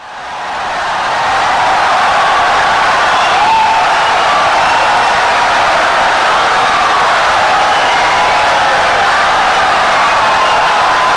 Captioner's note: wild applause and cheering for 17 seconds